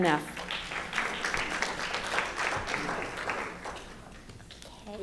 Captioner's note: audience clapping